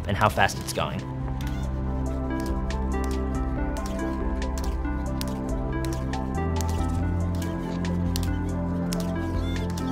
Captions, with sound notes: and how fast it's going. (rhythmic tapping)